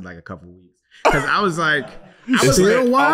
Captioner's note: laughing